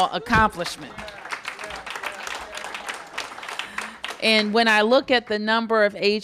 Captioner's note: applause